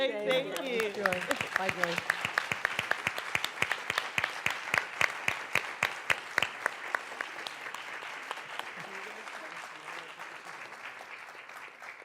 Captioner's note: applause